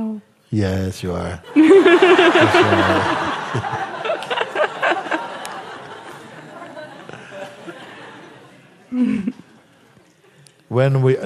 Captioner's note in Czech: smích